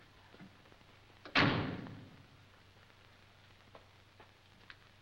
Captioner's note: car door closing